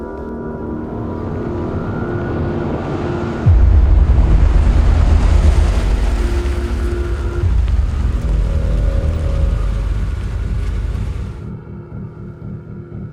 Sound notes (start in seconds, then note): 1.9 engine whirring; 1.9 gentle menacing music